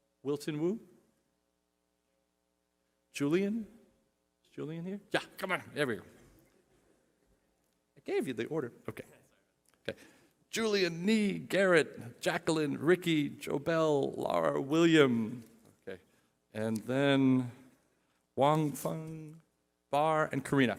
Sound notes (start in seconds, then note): none